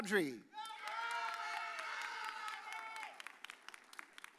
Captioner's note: audience cheers